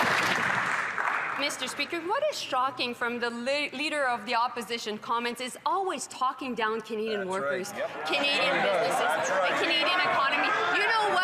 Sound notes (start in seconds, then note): 1.8 some Applause; 2.8 speaking French